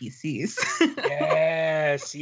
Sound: laughing

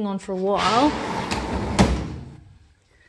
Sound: drawer slides open

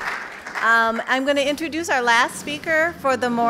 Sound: applause

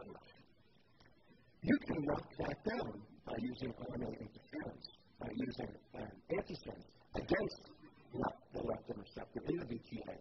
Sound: interference

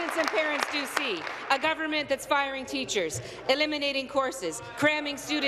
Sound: applause

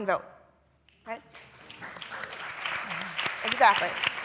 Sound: applause

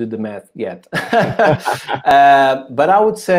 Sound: both laugh

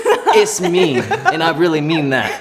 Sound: Kelianne laughs

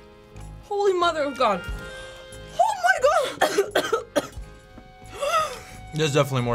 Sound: coughs

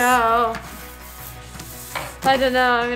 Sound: card shuffling

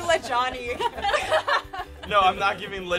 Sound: laughter

